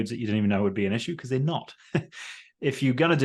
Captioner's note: laughs